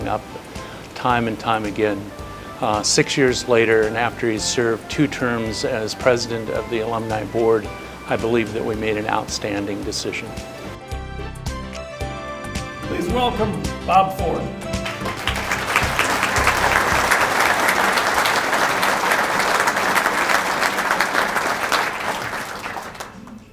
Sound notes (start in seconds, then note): 14.7 applause